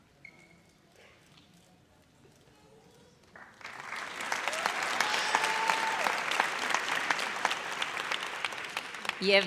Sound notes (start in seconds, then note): 3.3 audience applauds